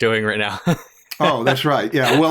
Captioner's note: laughter